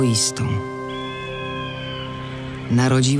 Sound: eagle calls

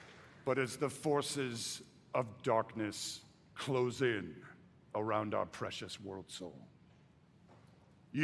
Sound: applause

